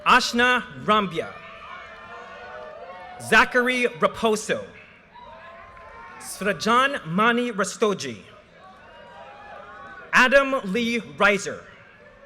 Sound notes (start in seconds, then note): 1.4 audience cheers and applause; 5.2 audience cheers and applause; 8.7 audience cheers and applause